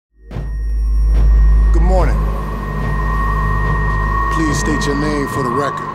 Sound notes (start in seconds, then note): 0.2 feedback whines